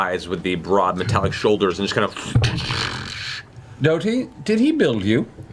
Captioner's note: heavy footfalls